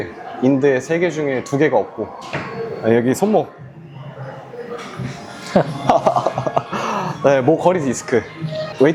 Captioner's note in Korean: 웃음